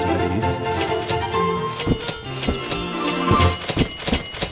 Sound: cash register chiming

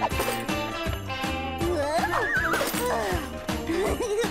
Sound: crashing; chuckling

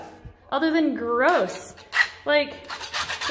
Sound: wall scraping

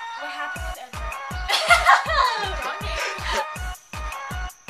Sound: laughs

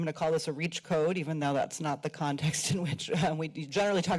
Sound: chuckles

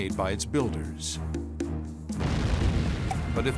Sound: explosion

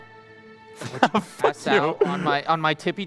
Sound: laughter

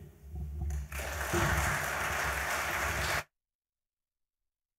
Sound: audience applauds

